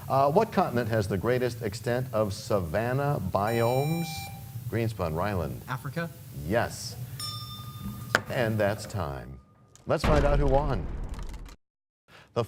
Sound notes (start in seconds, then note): 9.8 bell rings, time expires